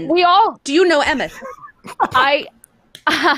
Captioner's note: laughing